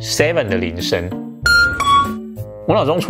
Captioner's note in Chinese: 鈴聲